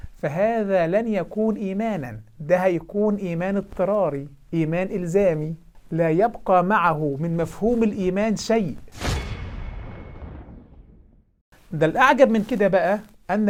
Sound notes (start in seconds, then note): 8.9 sound effect